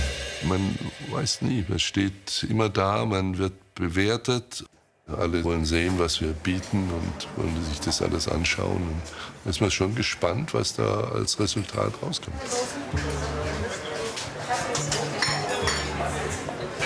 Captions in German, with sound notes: Man weiß nie. Man steht immer da, man wird bewertet. Alle wollen sehen, was wir bieten, und wollen sich das alles anschauen. Da ist man schon gespannt, was da als Resultat rauskommt. (Küchenklirren)